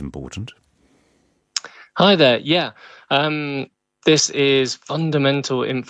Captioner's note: lips smack